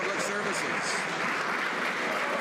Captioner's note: some Applause